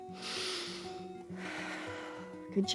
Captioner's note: inhales and exhales